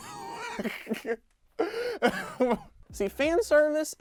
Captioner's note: laughs